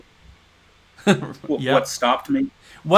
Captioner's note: chuckles